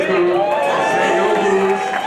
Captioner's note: cheering